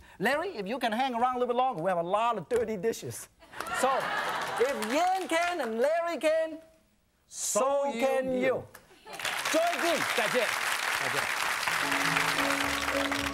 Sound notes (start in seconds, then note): 3.0 laughing; 9.1 applause; 11.6 joyful music; 12.4 applause